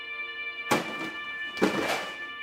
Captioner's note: two noises, like something falling to the ground while music continues